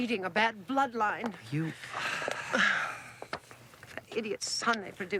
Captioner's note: Roslyn sighs; sighs